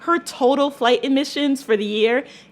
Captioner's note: none